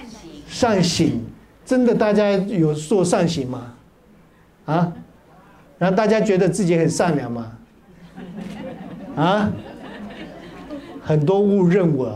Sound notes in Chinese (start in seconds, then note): 7.8 哈哈哈